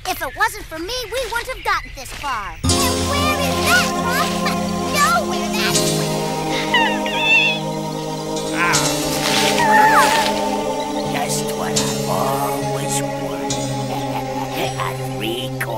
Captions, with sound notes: - If it wasn't for me, we wouldn't have gotten this far. - And where is that? Nowhere, that's where. (squeaking) (growling) - Just what I've always wanted, a three-course dinner.